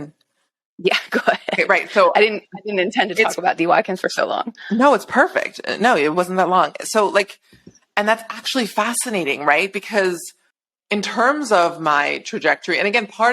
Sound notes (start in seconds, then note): 0.8 laughing